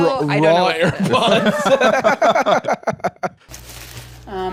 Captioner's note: both laughing